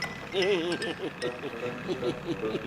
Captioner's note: laughing nervously